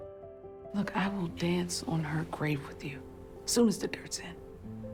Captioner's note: voiceover